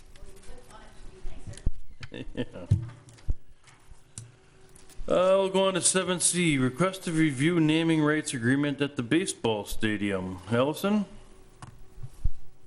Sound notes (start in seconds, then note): 2.0 chuckling